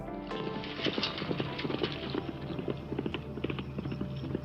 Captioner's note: hooves thumping